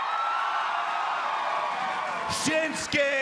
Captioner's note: cheers and applause